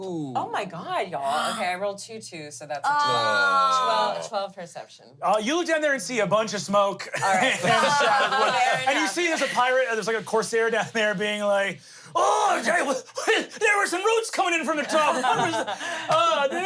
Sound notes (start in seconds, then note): 3.6 everyone groans